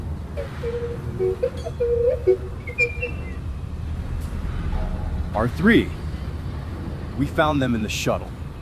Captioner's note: playfully beeps